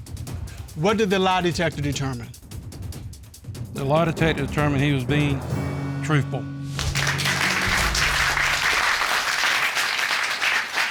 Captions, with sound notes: What did the lie detector determine? The lie detector determined he was being... -truthful. -[audience applauds]